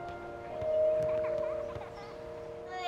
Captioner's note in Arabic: طفل يضحك